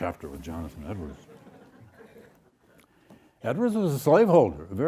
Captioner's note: audience laughs